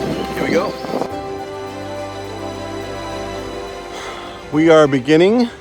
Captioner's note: wind rustling